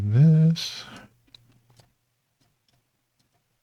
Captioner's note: silence